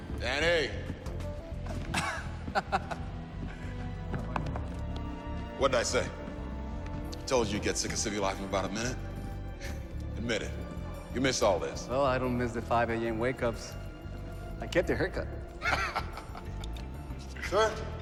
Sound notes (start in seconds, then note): 1.8 laughs